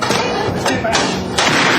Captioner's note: gunshot